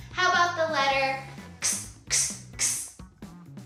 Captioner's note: hissing